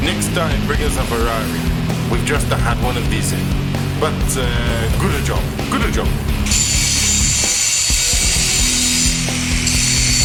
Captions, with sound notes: Next time, bring us a Ferrari. We've just had one of these in. But good job, good job. (Tools buzzing)